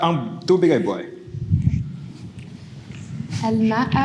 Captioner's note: speaks foreign language